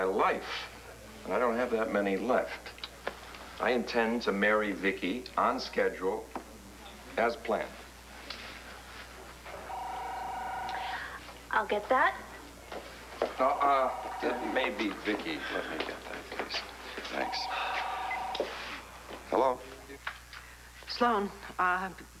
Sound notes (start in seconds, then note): 11.2 telephone rings